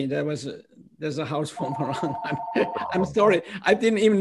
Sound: laughter

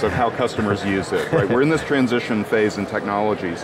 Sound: laughing

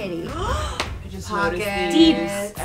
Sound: woman makes surprised sound

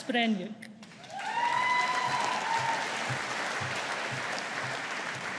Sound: audience applauding

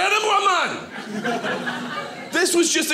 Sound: audience laughing

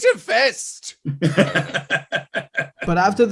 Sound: laughter

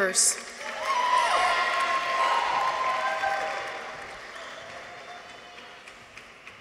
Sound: people cheer; audience applauds

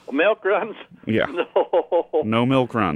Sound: laughing; laughs

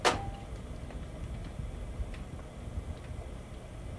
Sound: knocking

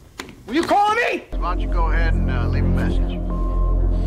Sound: beep

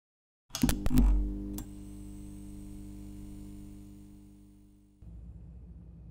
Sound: lights flickering

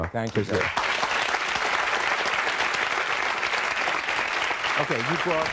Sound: audience applauding

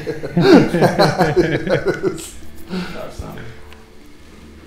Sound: group laughing

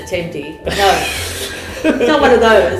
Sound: laughter

